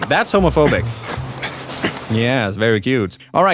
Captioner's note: grunting